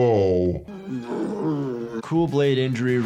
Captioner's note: groans